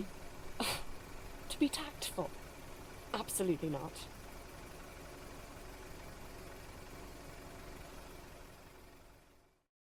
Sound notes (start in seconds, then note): 0.6 Lily huffs out a laugh; 4.1 engine fades